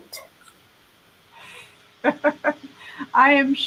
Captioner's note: laughing